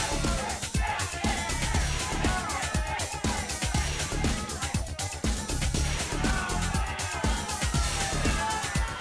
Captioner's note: crowd chatter; crowd cheering